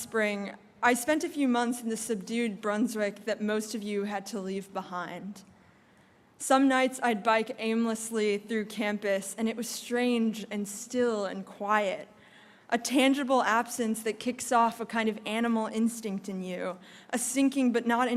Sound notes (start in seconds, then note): none